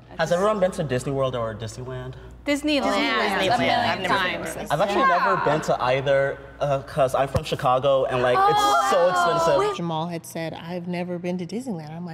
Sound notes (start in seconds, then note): 8.2 all cooing